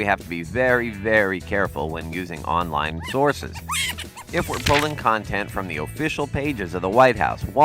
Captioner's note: Cat laughing from a laptop